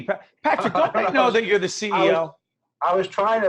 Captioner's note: laughing